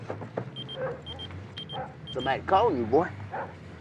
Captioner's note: cellphone ringing